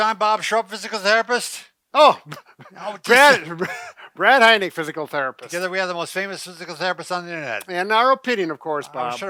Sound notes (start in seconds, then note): 2.2 chuckles